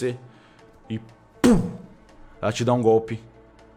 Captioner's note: pow